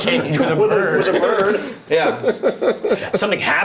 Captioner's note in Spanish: risas